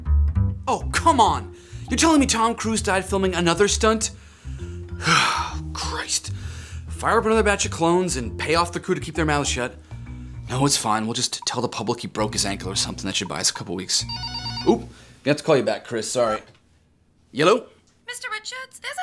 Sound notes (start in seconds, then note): 5.0 groans; 14.0 phone rings